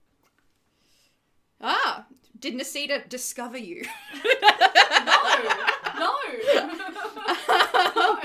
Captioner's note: laughs